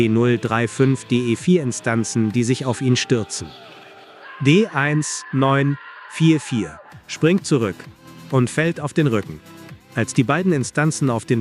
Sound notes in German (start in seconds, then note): 3.7 Schrei